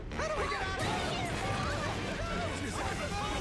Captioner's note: crowd chatters